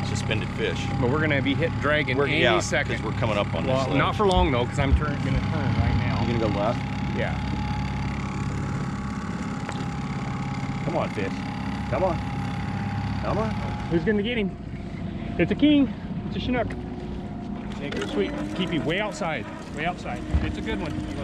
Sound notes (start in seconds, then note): 9.1 boat engine idling; 16.0 winch motor running